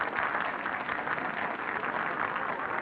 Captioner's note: applause